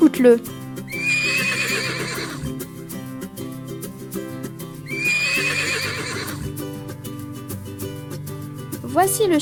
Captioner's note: the horse whinnies